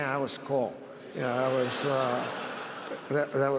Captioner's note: audience laughs